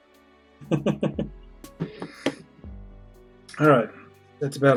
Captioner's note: chuckles